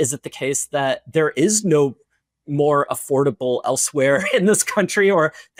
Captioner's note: laughs